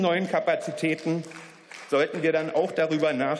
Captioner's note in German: Beifall